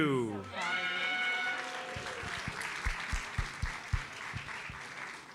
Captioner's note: audience cheers and applauds